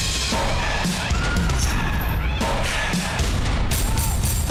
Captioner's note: audience squealing